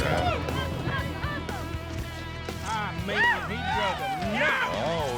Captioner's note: cheering